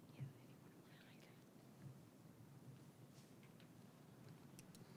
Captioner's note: participant whispering